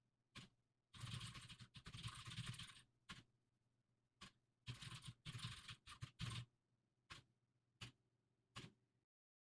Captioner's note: typing sounds